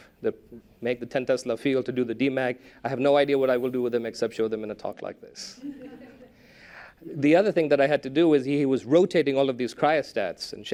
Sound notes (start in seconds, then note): 5.5 laughter